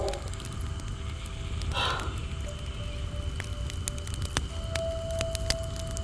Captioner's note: fire crackling continues